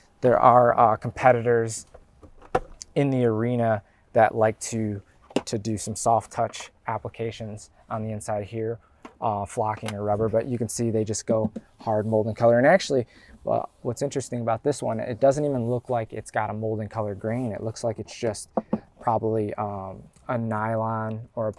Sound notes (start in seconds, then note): 11.4 bangs plastic; 18.5 bangs plastic